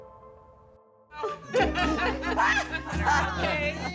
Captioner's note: shouts and laughs